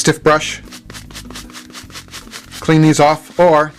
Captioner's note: brush rubbing